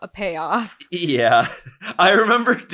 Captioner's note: chuckles